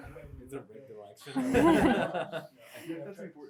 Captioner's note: laughter